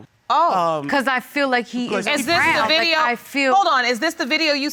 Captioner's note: both clamoring